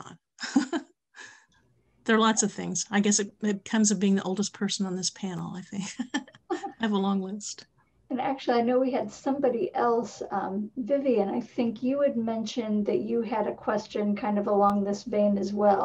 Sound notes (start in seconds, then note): 0.4 laughs; 5.8 laughs